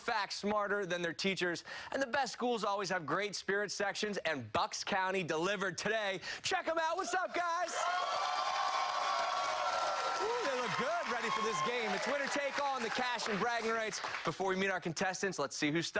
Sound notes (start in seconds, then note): 12.8 cheers and applause